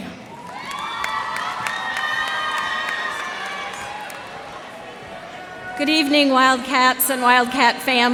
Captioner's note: cheers and applause